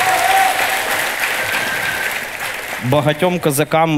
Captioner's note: the audience cheers